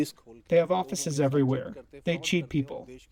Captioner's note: through translator